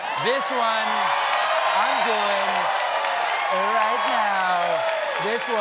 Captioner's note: cheers and applause